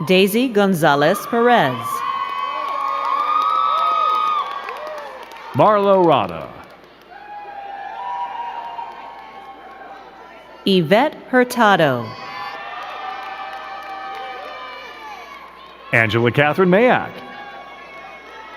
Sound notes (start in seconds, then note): 2.4 crowd cheering and clapping; 7.8 crowd cheering; 12.0 crowd cheering and clapping